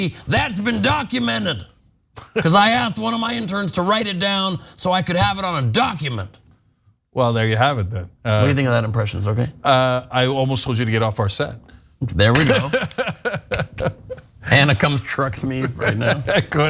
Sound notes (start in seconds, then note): 12.2 laugh